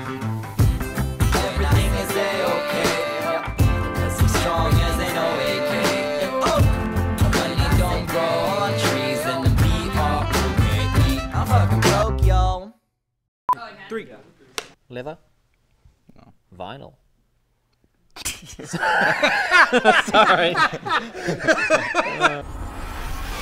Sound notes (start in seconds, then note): 18.3 laughter